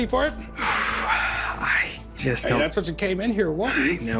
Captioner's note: exhales